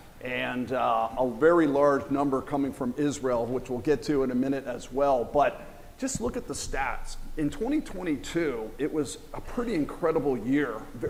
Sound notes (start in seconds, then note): none